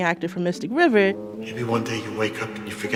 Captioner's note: soundbite of archived recording